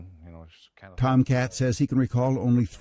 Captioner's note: voiceover